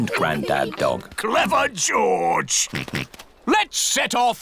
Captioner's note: snorts